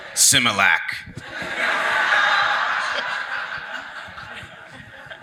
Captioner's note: audience laughs